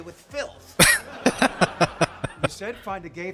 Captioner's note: laughing